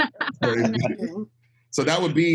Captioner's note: all laughing